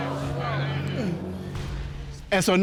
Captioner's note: audience exclaims